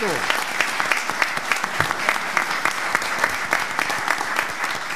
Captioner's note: audience clapping